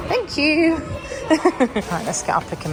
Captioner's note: laughs